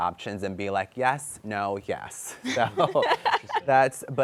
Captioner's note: laughs